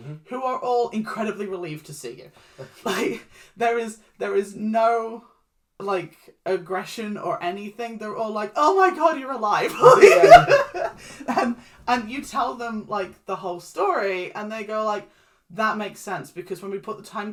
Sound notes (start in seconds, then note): 9.6 laughs